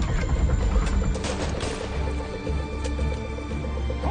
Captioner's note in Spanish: Disparos